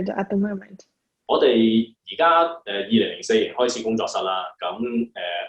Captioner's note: Cantonese